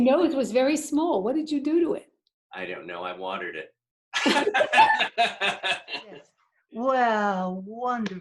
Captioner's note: laughter